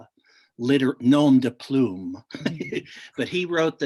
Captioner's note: laughs